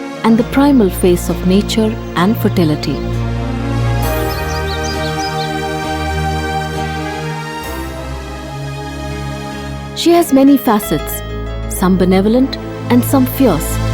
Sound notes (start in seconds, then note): 2.8 gentle music; 3.9 birds chirpping